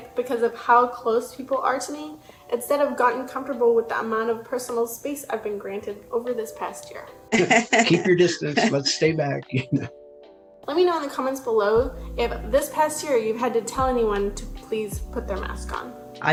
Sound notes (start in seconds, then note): 7.3 laughs